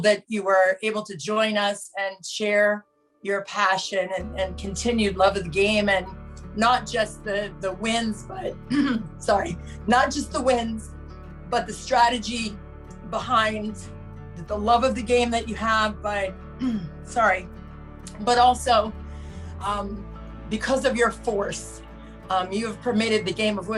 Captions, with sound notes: that you were able to join us and share your passion, and continued love of the game and not just the wins, but (clears throat) sorry, not just the wins, but the strategy behind the love of the game that you have, but (clears throat) sorry, but also, because of your force. You have permitted the game of